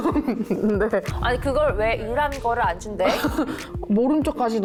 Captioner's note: thud sound